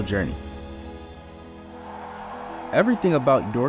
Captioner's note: crowd cheering